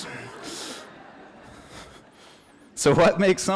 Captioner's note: laughter